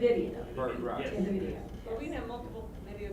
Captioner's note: voiceover